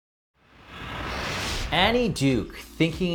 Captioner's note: whooshing